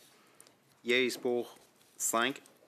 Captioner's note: speaking French